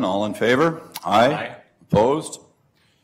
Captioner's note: multiple voices